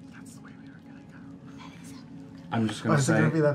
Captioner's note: whispers